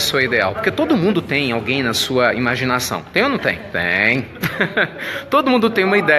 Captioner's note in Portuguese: risos